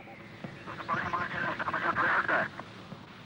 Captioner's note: radio Chatter